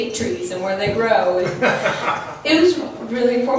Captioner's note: laughs